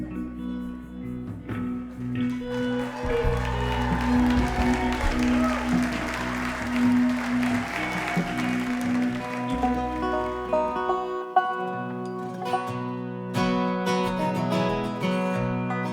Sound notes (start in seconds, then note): 2.9 crowd cheers; 9.9 gentle music